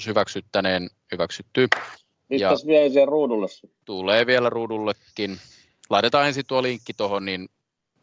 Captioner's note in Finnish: nuijan kopautus